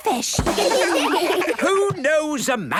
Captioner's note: children laugh